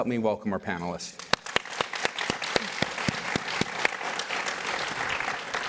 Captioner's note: applause